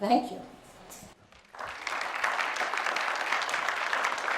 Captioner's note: applause